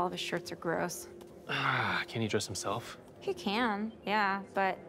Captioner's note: sighs